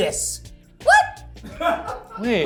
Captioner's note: crew laughs